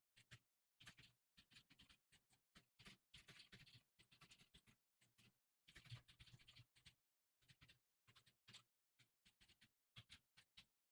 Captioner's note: typing sound